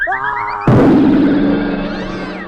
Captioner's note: crash